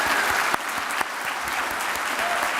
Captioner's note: applause